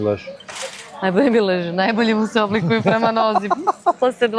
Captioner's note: laughter